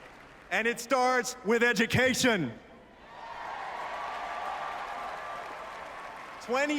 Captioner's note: applause